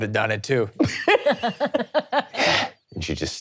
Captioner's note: laughing